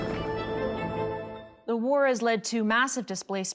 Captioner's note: bomb exploding